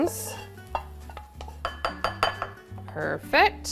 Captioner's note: bowl clattering